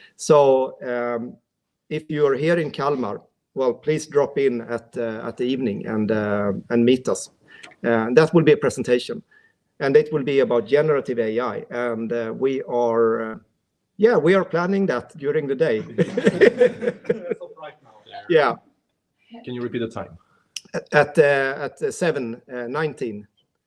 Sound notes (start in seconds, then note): 15.7 all laughing